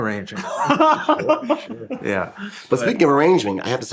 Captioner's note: laughing